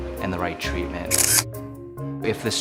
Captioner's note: camera shutter clicks